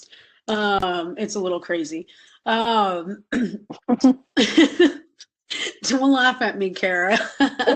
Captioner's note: laugher